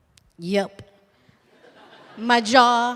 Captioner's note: laughter